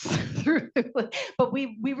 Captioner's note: laughs